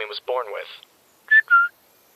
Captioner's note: whistles